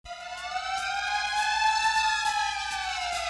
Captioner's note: siren